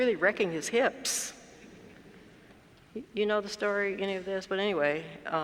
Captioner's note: laugh